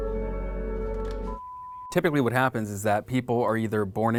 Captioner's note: dramatic music; beep